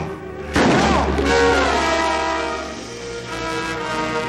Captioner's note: gun shot